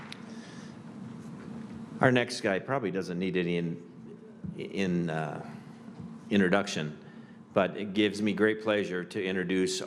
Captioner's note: applause